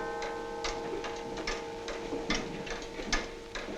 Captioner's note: clock ticking